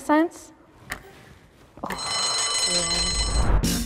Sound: bell rings

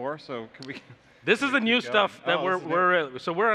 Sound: laughs

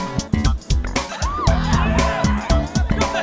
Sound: various cries

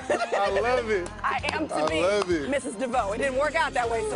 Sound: laughing

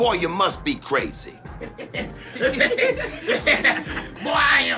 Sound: laughter

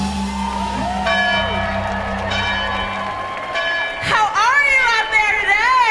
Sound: audience cheering

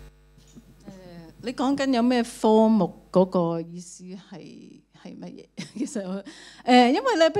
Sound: Cantonese

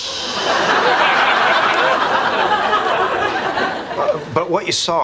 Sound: audience laughing

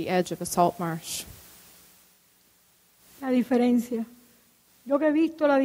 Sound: speaking in Spanish

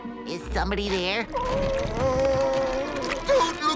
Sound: whimpering

